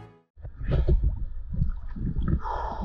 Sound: breathing

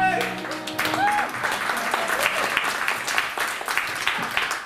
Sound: applause

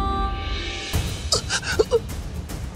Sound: Baba grunts

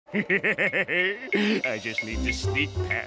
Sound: laughing

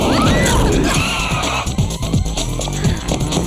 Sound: shriek

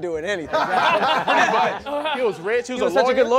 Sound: laughing

